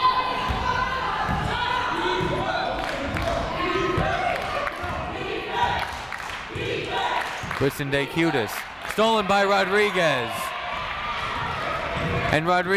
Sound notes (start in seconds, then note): 0.0 people shouting in the crowd; 5.2 people chanting in the crowd; 10.7 people shouting in the crowd